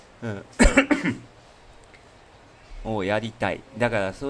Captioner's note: laughter; cough